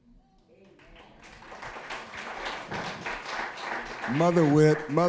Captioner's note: applause